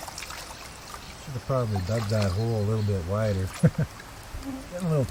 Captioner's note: laughter